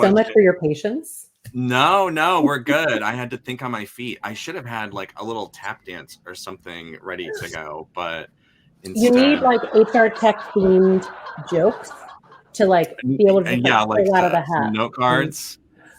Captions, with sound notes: - Thank you so much for your patience! - No, no, we're good! I had to think on my feet. I should have had, like, a little tap dance or something ready to go, but, instead-- (audience laughs) - You need, like, HR tech-themed jokes to, like, be able to pull out of a hat. - Yeah, like, note cards.